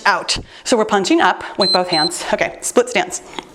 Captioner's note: timer beeps